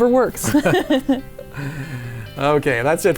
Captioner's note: laughing